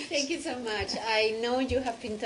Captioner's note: laughter